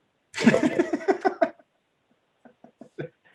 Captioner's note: laughing